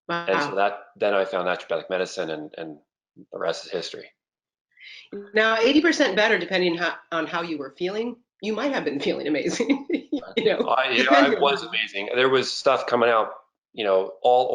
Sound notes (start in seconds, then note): 8.8 laughs